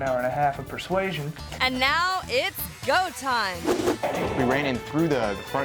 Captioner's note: screen whooshes